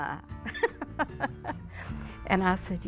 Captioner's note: laughs